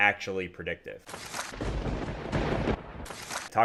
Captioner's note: papers shuffle; thunder booms